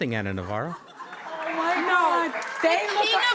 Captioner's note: audience laughs